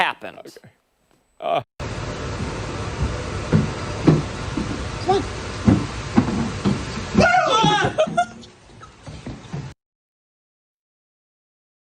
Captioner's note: laughter